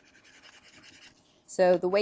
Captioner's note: scribbling